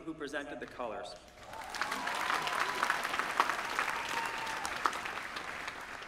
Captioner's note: applause